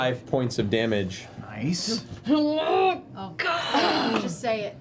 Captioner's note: grunts